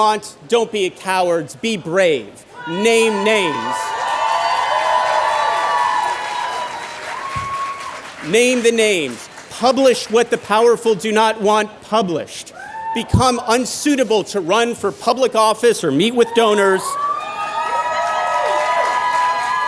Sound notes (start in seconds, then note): 4.2 cheering; 16.2 cheering